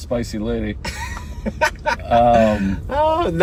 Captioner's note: laughing